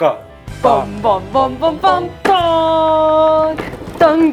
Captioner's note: bam-bam-bam-bam-bam